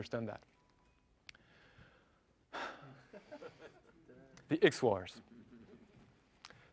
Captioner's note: laugh